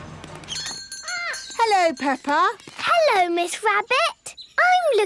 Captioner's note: bell jingling